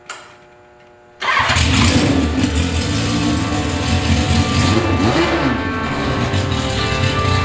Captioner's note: motorcycle engine revving